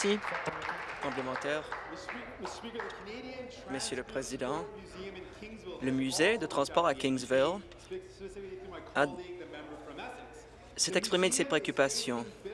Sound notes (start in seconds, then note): 3.5 applause